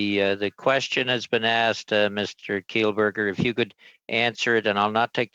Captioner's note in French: voix de l'interprète